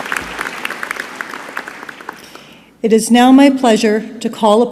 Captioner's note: applause